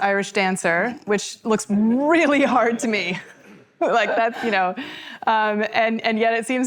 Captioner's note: laughing